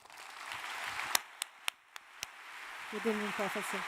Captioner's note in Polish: oklaski